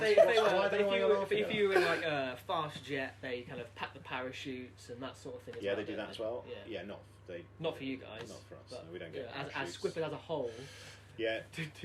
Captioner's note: laughter